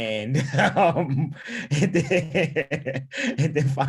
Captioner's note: laughing